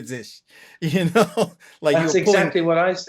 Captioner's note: laughter